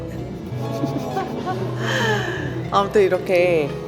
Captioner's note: laughter